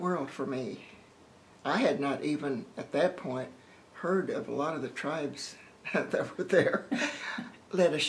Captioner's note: laughter